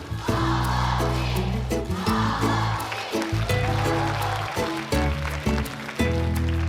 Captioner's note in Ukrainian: оплески